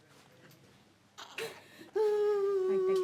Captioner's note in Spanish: bebé se queja